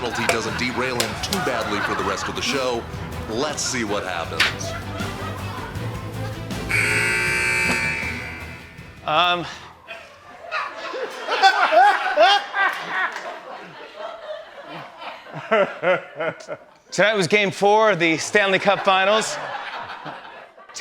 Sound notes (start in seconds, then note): 6.6 buzzer; 9.7 laughter; 18.4 laughter